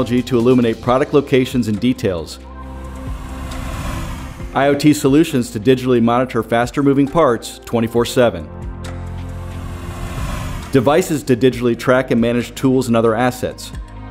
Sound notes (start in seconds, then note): 2.6 screen whooshing; 9.1 screen whooshing